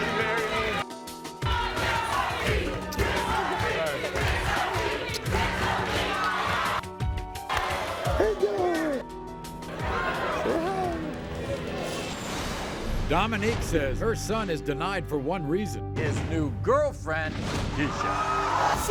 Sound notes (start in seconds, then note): 0.0 crowd shouting; 1.4 crowd